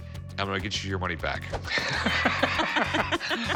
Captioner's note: both laugh